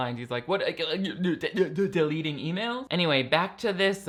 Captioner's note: stammers